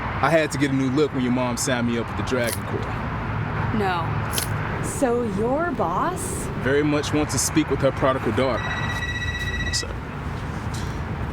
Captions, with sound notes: I had to get a new look when your mom signed me up for the Dragon Corps. No. So your boss... Very much wants to speak with her prodigal daughter. –(phone ringing) –One sec.